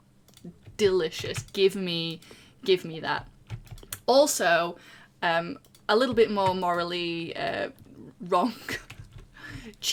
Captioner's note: laughs